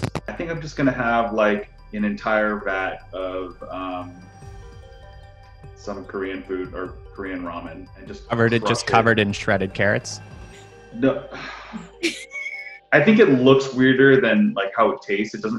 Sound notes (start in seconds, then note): 11.0 sighs; 12.0 laughing